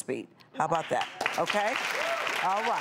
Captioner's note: audience applause